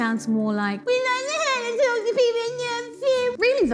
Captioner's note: crying noises